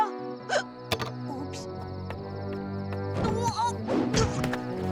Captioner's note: hiccup